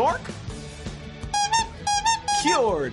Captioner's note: honks normally